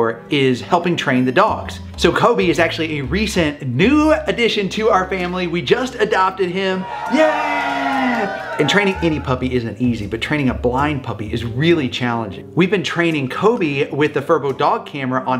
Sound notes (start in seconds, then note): 6.6 cheering effect